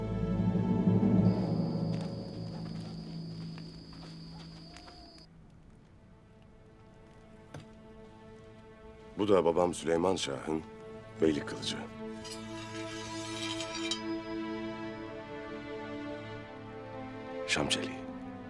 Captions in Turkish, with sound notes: Bu da babam Süleyman Şah'ın beylik kılıcı. (Kılıç sesi) Şam çeliği.